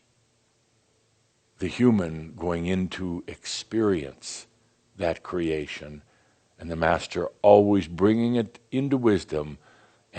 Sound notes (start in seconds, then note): none